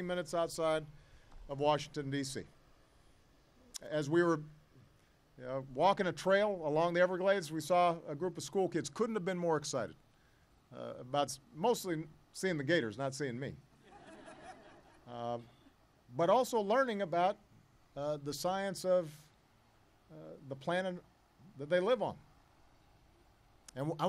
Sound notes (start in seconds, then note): 13.8 laughter